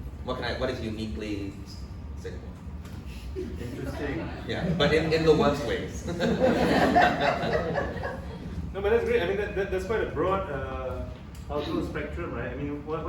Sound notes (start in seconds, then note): 6.0 laughs; 6.8 audience laughs